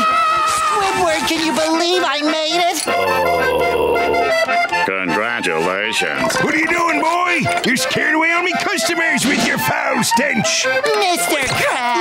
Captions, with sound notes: Squidward can you believe I made it? [groaning] Congratulations. What are you doing, boy? You're scaring away all my customers with your foul stench! Mr. Krabs!